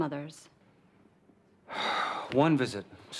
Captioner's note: sighs